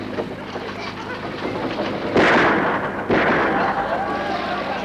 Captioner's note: gun shots